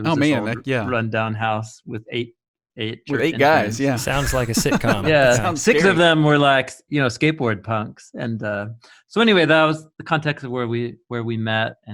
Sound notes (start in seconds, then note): 3.1 laughing; 3.1 men laughing